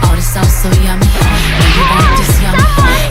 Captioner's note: splash!!